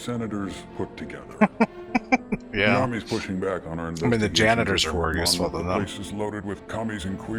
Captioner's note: laughing